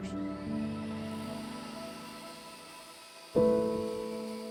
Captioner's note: saw blade grinding